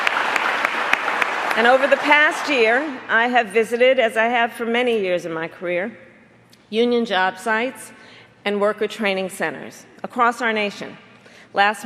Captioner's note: applause